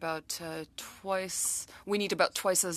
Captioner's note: speaking french